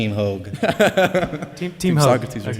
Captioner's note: laughter